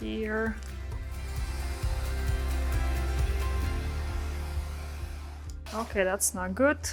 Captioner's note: lively music; hair dryer whirring